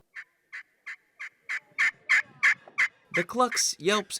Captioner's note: turkey call chirping